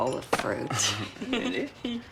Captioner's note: laughing